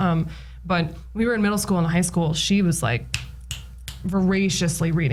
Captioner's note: snaps fingers three times